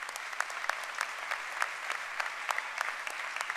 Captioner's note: applause